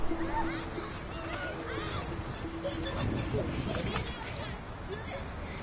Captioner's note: children laughing